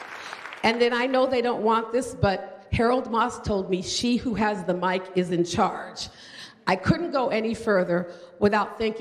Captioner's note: applause